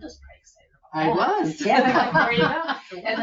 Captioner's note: laughs